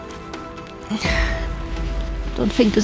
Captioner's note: sigh